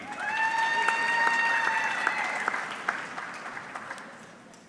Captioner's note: audience clapping